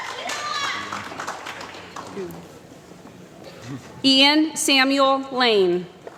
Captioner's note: applause